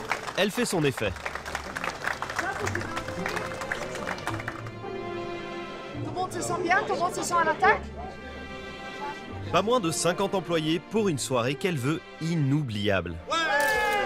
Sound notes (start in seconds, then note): 1.8 applause